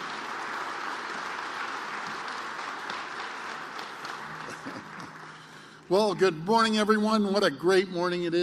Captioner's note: applause